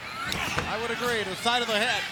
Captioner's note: wrestlers grunting; blows thudding